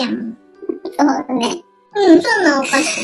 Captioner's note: laughs